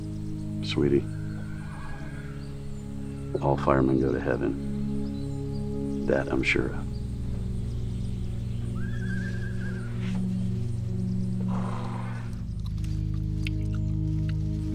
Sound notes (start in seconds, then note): 11.2 horse braying